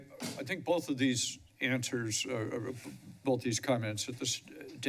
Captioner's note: none